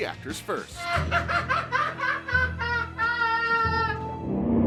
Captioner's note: laughing